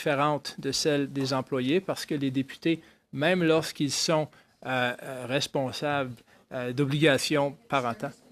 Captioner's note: speaking in French